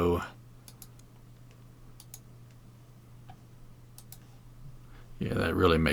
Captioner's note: mouse clicking